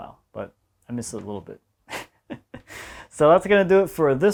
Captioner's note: laughs